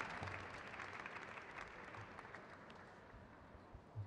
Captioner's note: crowd cheers